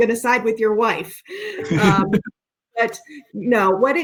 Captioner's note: laughing